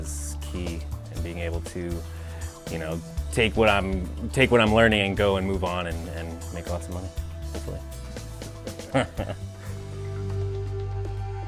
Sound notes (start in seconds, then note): 8.8 laughing